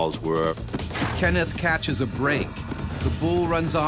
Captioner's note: voiceover